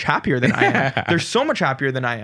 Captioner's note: laughs